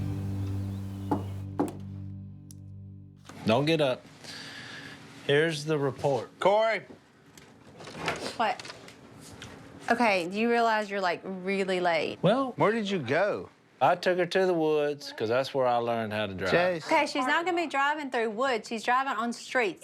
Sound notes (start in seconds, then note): 1.0 knocking